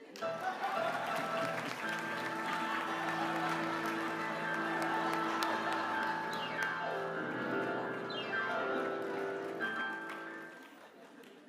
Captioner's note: applause; laughter